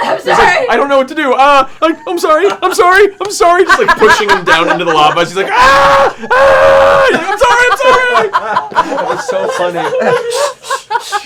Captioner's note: screaming